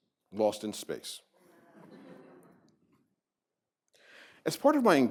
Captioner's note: laughter